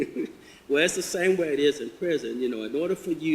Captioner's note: chuckles